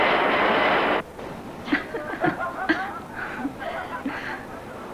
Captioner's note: laughs